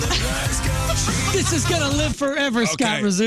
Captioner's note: laughing